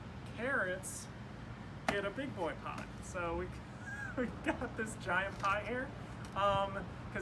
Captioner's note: laughing